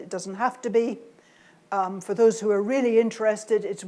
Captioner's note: none